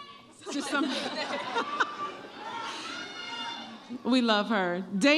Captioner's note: laughs